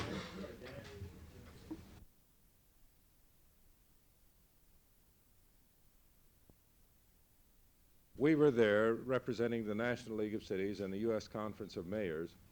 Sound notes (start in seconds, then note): 2.0 no audio